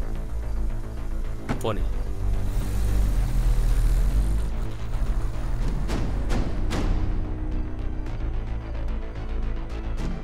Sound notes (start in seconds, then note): 1.4 car door closes; 2.5 car moving